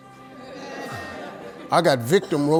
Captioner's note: audience laughing